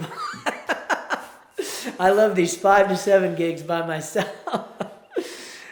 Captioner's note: laughs